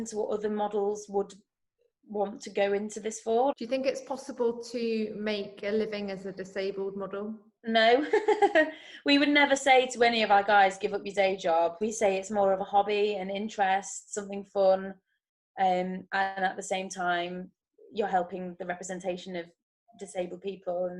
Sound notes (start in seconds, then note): 7.9 chuckles